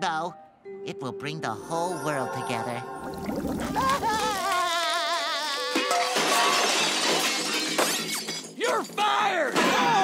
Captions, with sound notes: it will bring the whole world together. [crying] You're fired!